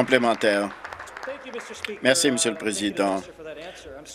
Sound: applause

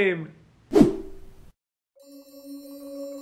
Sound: screen whooshing

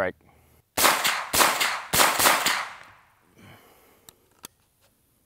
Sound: gun firing repeatedly

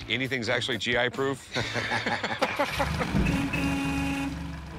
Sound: laughter

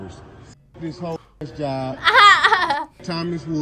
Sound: laughs

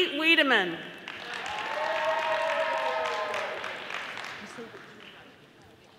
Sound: audience applauding

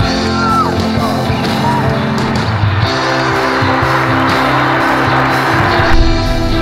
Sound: applause

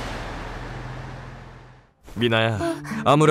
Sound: sighs

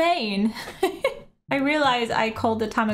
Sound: laughs

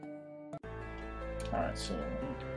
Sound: none

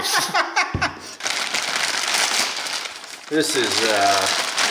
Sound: laughs; plastic rustling

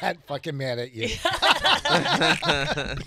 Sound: laughing

